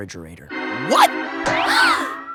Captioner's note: gasp